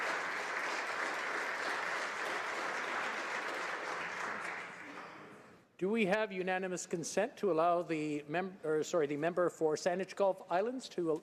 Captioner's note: applause